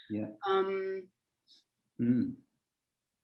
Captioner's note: none